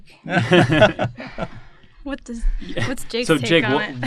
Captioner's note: laughter